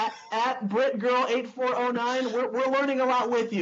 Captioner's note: chuckles